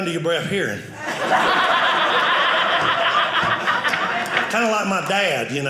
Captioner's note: audience laughing